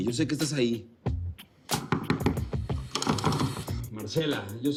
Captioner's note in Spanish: Toques en la puerta